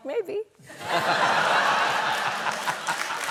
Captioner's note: laughter